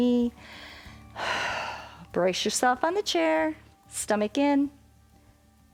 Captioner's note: exhales